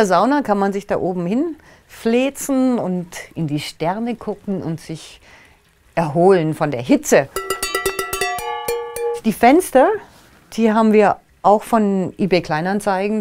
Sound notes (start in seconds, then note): 7.3 rating chimes